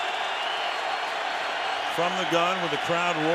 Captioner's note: crowd roars